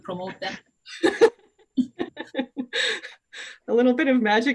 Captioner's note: laughter